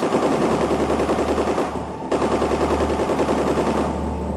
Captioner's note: guns blasting